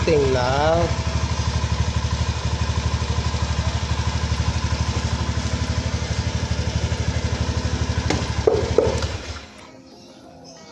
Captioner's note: motorcycle engine